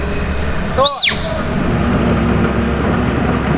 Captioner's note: whistles